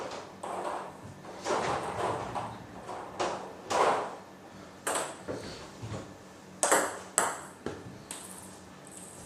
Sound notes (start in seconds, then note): 0.8 balls ping pong hitting continues